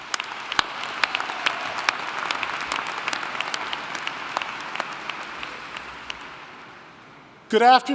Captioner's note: applauding